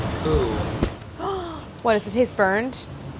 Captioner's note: gasping